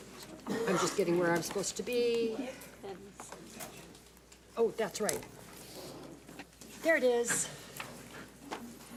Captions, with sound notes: I'm just getting where I'm supposed to be. (woman speaks off mic) Oh, that's right. There it is.